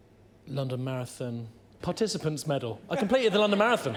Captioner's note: laughter